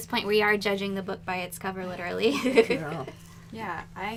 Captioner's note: laughter